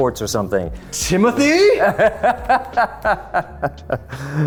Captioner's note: laughing